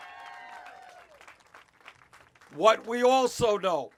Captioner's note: cheers